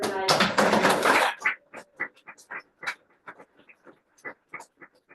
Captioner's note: audience applauding